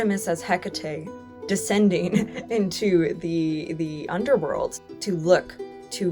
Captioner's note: chuckles